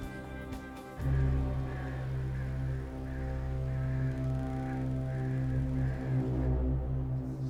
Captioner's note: foreboding music; crows cawing